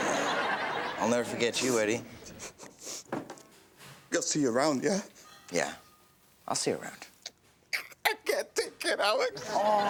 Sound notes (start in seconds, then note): 0.0 audience laughs; 2.2 Eddie sniffles